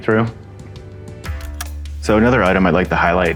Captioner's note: Slide projector click